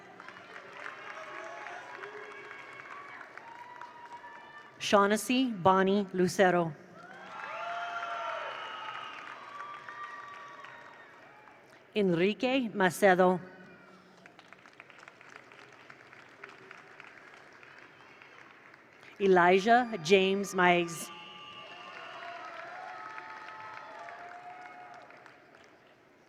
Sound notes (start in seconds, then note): 0.0 attendees applaud; 0.0 attendees cheer; 6.9 attendees cheer; 7.0 attendees applaud; 13.8 attendees cheer; 14.0 attendees applaud; 21.1 attendees applaud; 21.2 attendees cheer